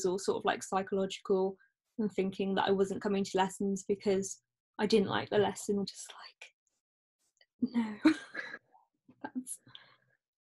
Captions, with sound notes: sort of like, psychological and thinking that I wasn't coming to lessons, because I didn't like the lessons. And I'm just like "no" (both laugh)